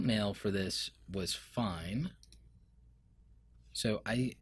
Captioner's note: clicking